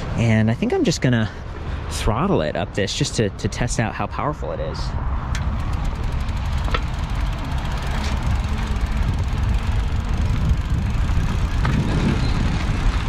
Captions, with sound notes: And I think I'm just gonna throttle it up this just to test out how powerful it is. (bike rattling) (wind gushing)